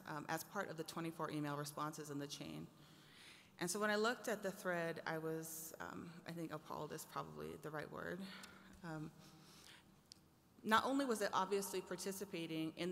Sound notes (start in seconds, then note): none